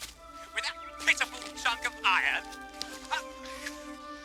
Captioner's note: voice over tape recorder